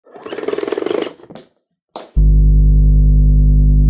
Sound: mechanical rolling; dull electronic humming

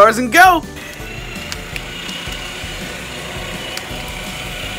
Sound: quiet motor

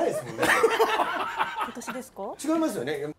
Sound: laughter

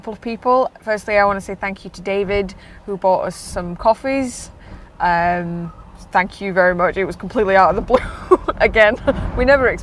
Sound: laughs

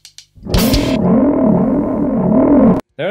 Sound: chaotic racket with a glitch in the sound

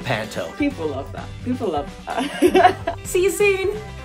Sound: laughs

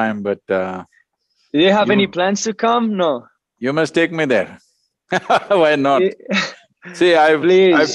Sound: laughs

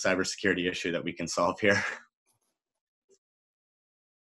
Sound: chuckles

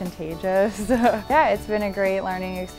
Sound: chuckle

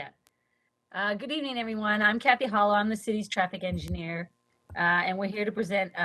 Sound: audio cutting in and out

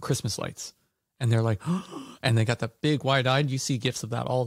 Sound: gasp

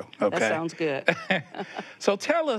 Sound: both chuckling

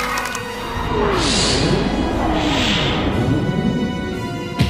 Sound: crowd cheers and applause; whooshing; thuds

